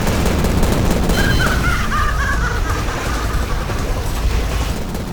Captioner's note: maniacal laugh